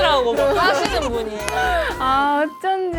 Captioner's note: sobbing